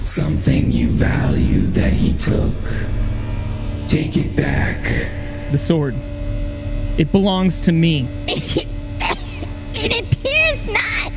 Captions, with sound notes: Something you valued that he took. Take it back. The sword, it belongs to me. (coughs) It appears not!